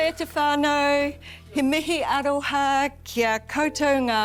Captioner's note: speaking in te reo